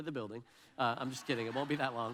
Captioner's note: audience laughs